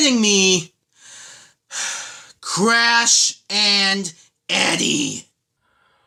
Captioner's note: sigh